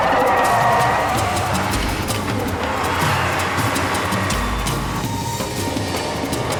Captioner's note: dramatic music; tires squealing